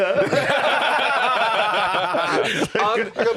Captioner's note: all laughing